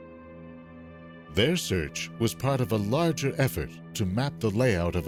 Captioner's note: voiceover